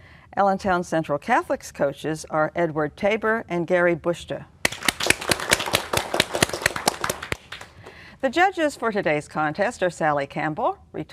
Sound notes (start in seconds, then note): 4.6 applause